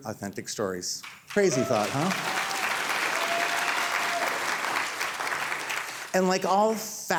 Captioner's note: audience cheering